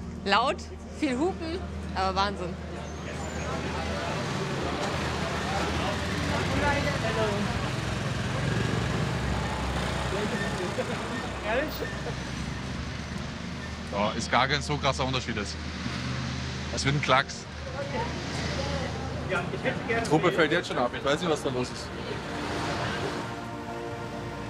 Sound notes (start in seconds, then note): 4.9 road noise